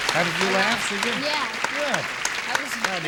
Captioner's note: applause